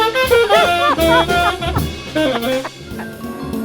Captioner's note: laughing